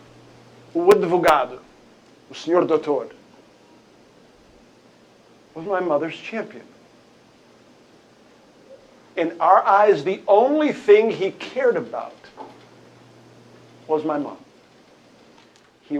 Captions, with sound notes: [SPEAKING PORTUGUESE] Was my mother's champion. In our eyes, the only thing he cared about was my mom.